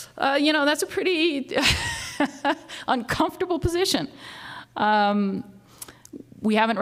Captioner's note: laughs